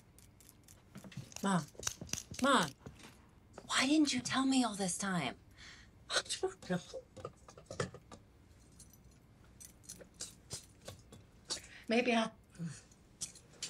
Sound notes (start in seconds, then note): none